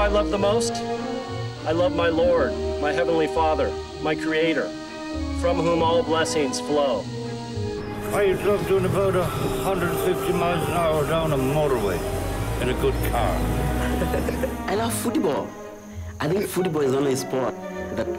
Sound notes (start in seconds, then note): 13.6 giggles